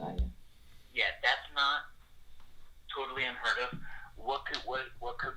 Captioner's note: on phone